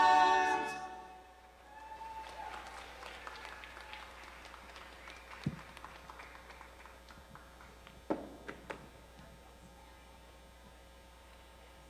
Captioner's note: applause